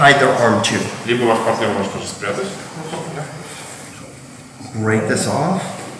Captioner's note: speaking in a foreign language